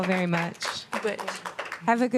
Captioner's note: applause